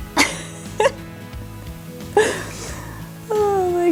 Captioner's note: laughs